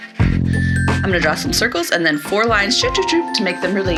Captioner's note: bloop, bloop, bloop